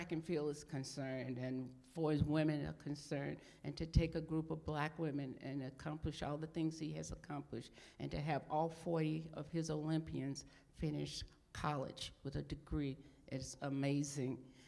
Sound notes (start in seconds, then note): none